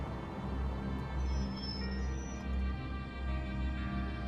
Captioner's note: brakes squeal